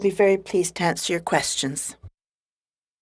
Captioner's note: speaking in French